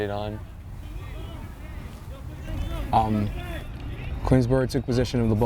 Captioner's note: players shouting